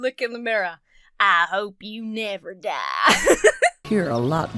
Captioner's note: laughs